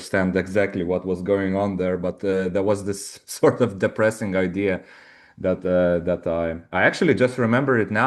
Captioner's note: chuckles